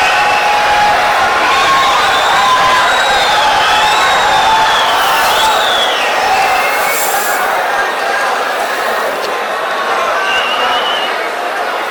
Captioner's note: wild applause and cheering for 22 seconds